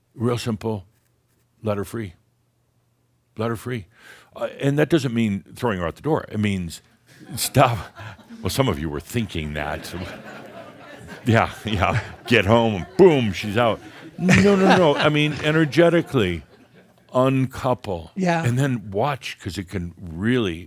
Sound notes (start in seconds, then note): 7.1 a few chuckles; 9.4 some laughter